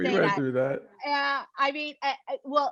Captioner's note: laugh